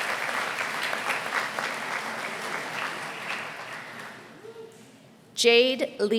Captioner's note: applause